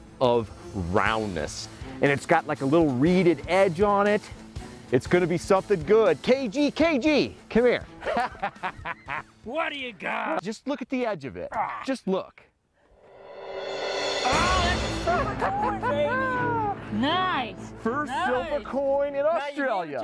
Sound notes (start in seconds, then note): 8.0 laughing; 12.9 intense music